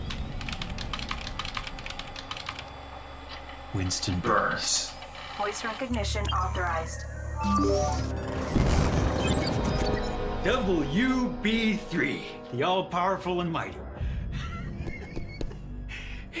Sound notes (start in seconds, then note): 0.1 keyboard clacking; 5.6 automated Voice; 14.4 Winston chuckling